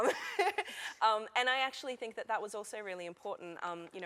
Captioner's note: laughter